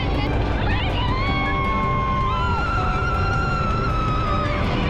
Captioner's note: screams